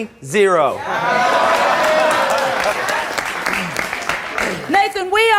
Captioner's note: audience applauds